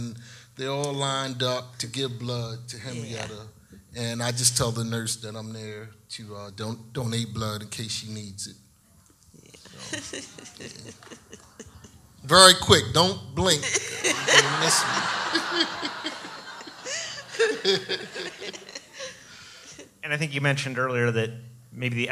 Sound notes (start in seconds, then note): 9.5 laughs; 15.2 audience laughs